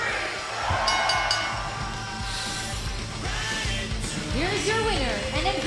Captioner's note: bell ringing